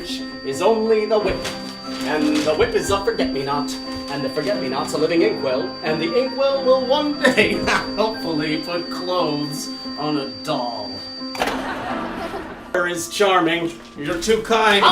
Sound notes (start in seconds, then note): 11.4 canned laugh track